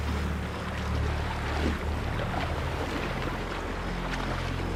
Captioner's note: animals calling